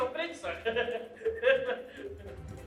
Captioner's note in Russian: смеется